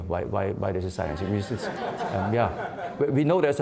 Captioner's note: laughing